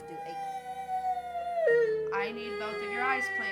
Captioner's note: boy Crying